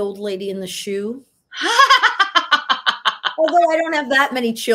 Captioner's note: laughing